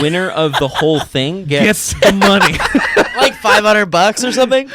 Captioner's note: laughs